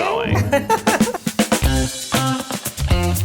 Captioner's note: laughs; upbeat theme music